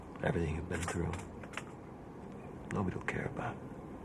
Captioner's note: none